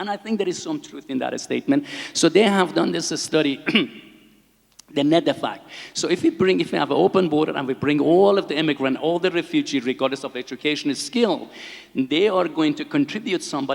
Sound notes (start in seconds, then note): 3.6 clears throat